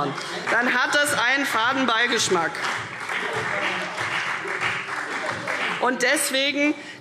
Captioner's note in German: Beifall CDU